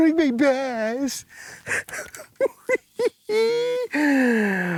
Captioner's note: laughing